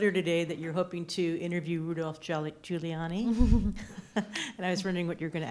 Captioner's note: laughs